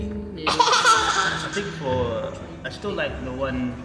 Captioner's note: laughing